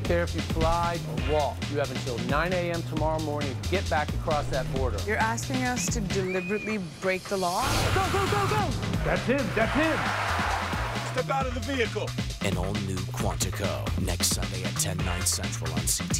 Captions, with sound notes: I don't care if you fly or walk. You have until 9 a.m. tomorrow morning to get back across that border. You're asking us to deliberately break the law? Go! Go! Go! Go! That's him! That's him! [tires squealing] Step out of the vehicle!